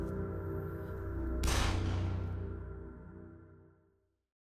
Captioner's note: gun fires